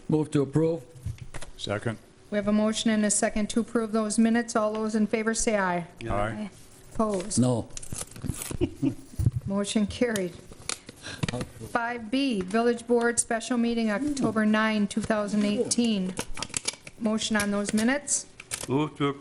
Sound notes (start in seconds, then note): 8.4 laughing